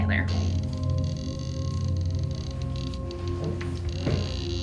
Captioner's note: device clicking; clicking intensifies